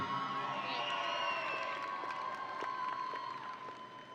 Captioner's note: audience cheering